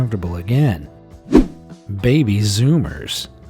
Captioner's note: image whooshing